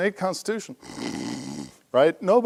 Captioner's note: snore